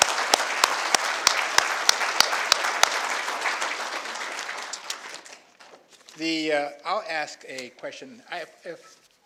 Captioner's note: applause